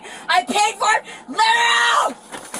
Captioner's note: screaming